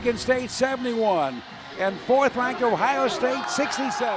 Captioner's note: indistinct cheering